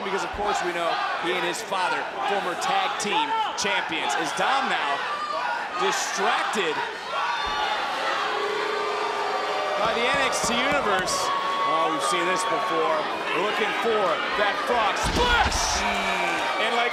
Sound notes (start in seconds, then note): 8.5 crowd boos